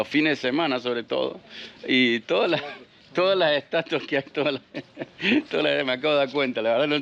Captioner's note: laughs